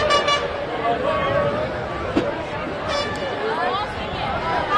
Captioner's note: crowd chattering